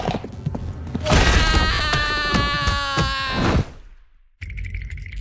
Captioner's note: screams